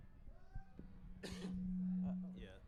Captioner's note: coughs